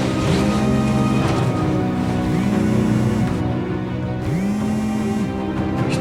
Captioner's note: phone vibrating